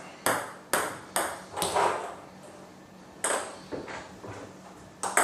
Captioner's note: ball ping pong hitting continues